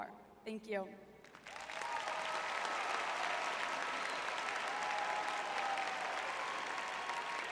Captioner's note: audience cheering